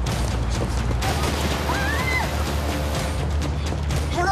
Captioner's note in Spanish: Disparo; Gritos